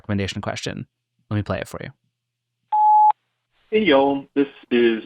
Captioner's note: message beeping